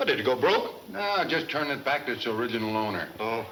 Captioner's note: none